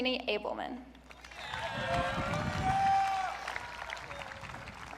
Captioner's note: audience cheering